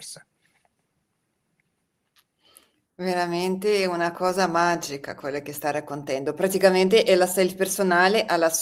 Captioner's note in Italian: sbuffare